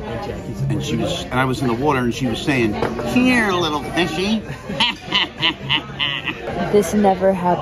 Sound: evil laugh

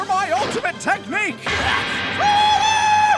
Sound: gasp ⊙▃⊙

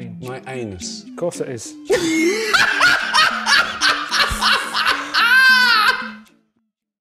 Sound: laughs

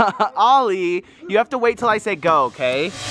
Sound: laugh

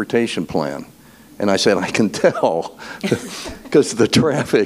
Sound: laughs

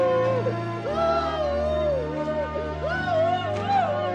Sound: sobbing

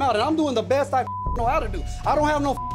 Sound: beep

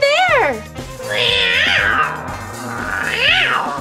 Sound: roaring

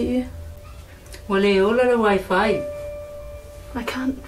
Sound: speaking in Samoan

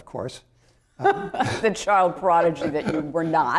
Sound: laughter

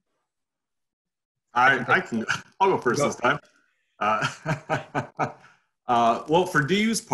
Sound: laughing

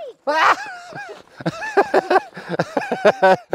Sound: laughing

